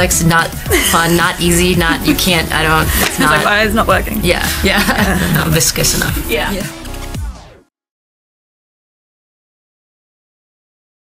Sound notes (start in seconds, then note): 0.7 laughing; 4.4 all laughing